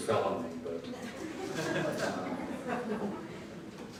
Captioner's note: crowd laughing